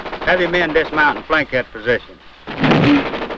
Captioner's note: gunfire sound